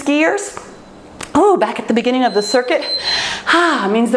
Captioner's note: timer beeps